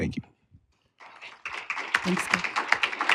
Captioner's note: applause